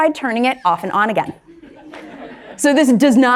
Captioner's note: crowd laughs